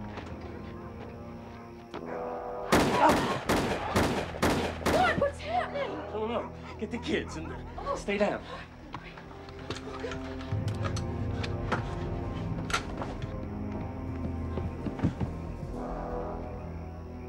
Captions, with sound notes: [gun shots] ROY, WHAT'S HAPPENING? I DON'T KNOW! GET THE KIDS AND STAY DOWN.